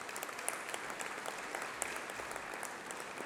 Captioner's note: applause